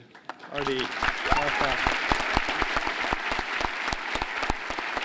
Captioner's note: applause